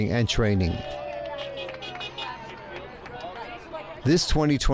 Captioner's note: crowd cheering